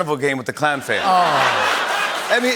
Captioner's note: laughter